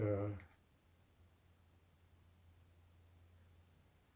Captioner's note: pauses 6 seconds